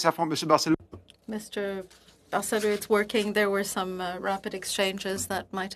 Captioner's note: speaking French